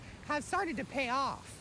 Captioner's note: nat waves